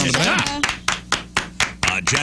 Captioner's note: clapping